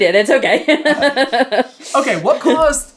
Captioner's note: laughing